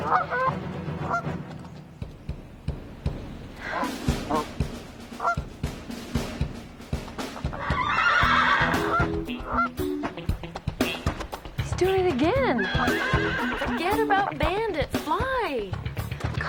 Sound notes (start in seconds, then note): 0.0 goose quacks; 7.5 horse neighs; 12.5 horse neighs